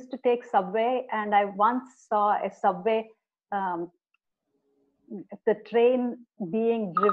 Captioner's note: phone rings